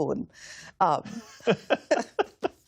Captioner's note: laughter